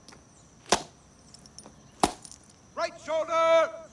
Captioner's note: clicking heels